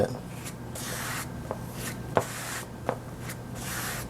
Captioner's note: mixer scraping